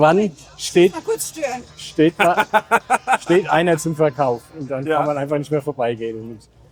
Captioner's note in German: gelächter